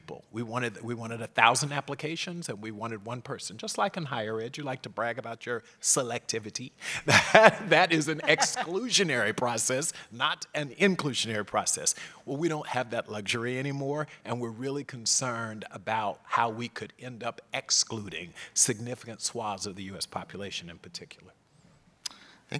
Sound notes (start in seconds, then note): 7.0 laugh